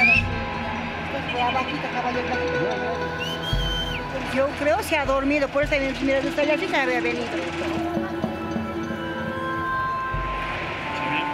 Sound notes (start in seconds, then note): 4.6 observer speaking in foreign language